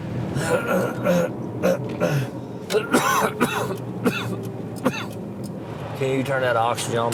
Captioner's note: clears throat, coughs